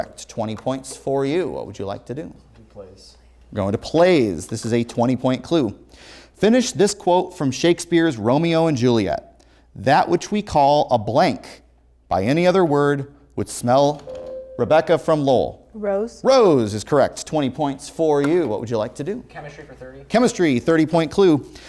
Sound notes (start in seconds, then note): 14.0 ringing